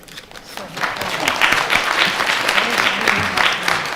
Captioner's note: applause